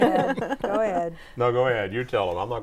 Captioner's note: laughing